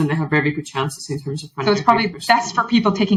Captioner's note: faintly speaks